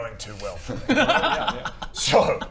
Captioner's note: insensitive laughter